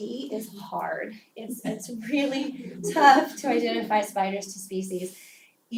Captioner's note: laugh